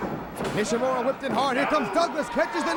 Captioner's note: crowd chatter